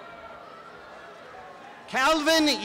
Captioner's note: applause and cheering